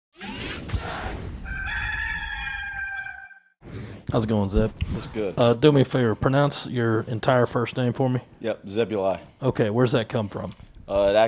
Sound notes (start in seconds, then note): 0.2 whooshing; 1.4 rooster crows